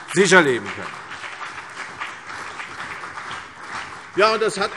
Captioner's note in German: Beifall CDU und BÜNDNIS 90/DIE GRÜNEN